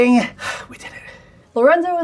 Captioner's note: sighs